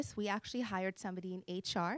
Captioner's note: none